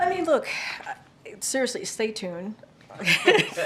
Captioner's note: laughter